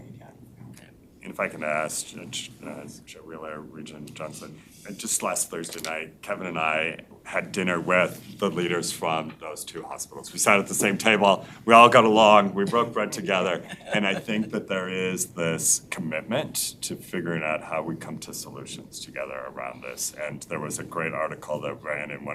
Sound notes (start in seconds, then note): 13.4 member laughs